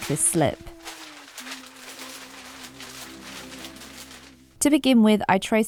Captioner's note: paper crinkles loudly